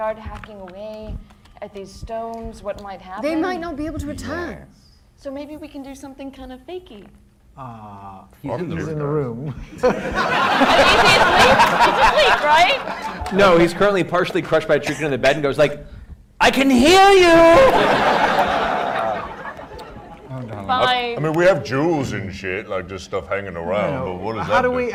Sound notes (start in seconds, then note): 9.6 laughter